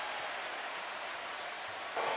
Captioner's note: cheers